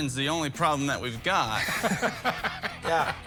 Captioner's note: all laughing